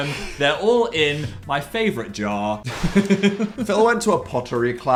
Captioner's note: laughing